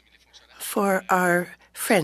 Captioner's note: speaking French